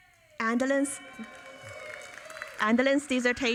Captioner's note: audience cheering